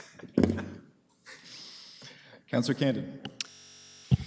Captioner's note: laughter